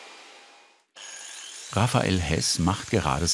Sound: shrill grinding

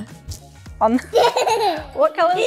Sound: laughs

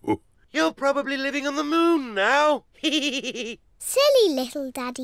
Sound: laughs; chuckles

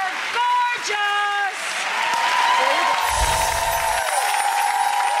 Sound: applauding, cheering

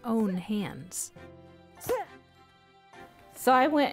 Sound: yelling

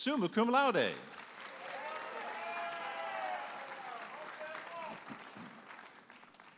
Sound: audience applauding and cheering

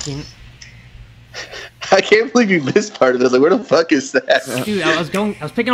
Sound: stutters; laughs

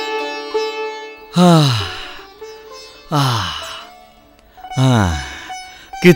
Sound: sighs

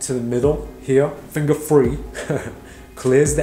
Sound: laughs

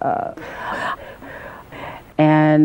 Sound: breaths

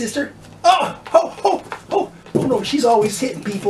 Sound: DOG yelps in pain

